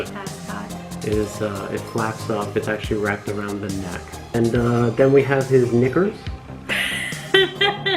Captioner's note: laughs